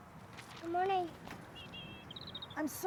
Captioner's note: birds chirping